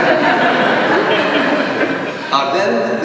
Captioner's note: laughter